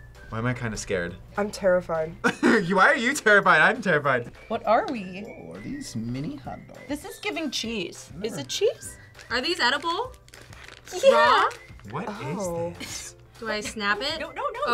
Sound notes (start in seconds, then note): 2.3 laughs; 10.9 laughs